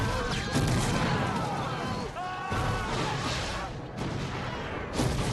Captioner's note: soldiers screaming in pain